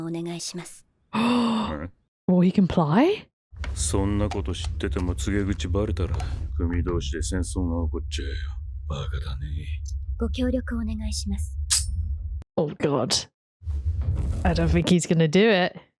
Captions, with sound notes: [gasp] Will he comply? Oh god. I don't think he's going to do it.